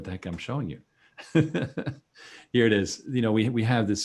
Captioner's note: chuckles